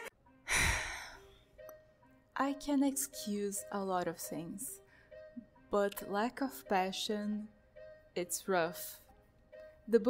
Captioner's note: sigh